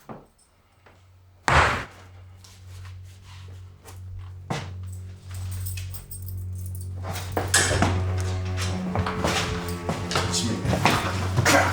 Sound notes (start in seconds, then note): 1.5 boot thudding; 3.0 ominous music